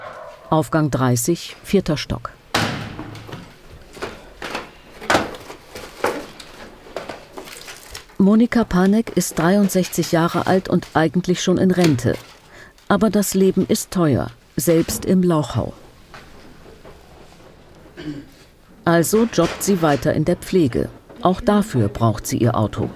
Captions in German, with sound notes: Aufgang 30, vierter Stock. Monika Panek ist 63 Jahre alt und eigentlich schon in Rente. Aber das Leben ist teuer, selbst im Lauchhau. (Leises Räuspern) Also jobbt sie weiter in der Pflege. Auch dafür braucht sie ihr Auto.